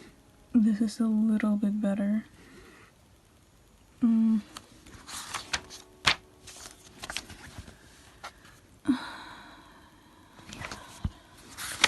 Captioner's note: sigh